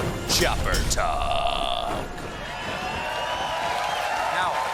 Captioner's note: cheers and applause